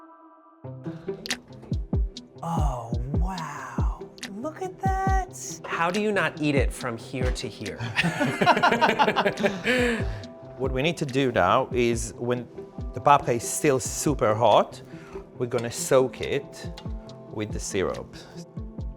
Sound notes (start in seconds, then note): 0.7 mellow plucky music; 7.8 laughing